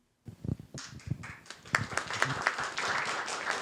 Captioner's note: applause